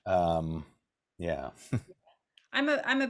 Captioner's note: chuckles